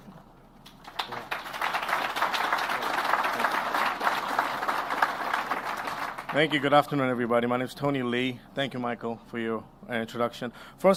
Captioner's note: applause